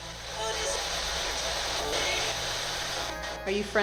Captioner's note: spirit box voice